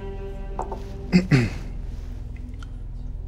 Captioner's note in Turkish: Hakan boğazını temizledi